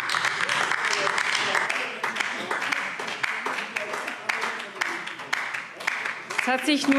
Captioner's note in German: Beifall DIE LINKE - Zurufe AfD